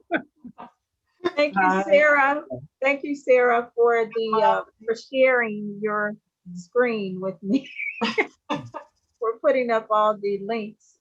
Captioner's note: laughter